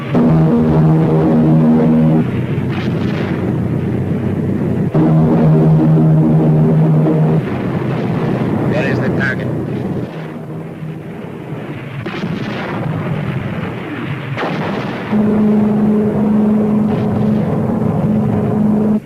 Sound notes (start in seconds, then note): 0.1 plane engines roaring; 12.2 weapons firing; 14.4 plane engine revving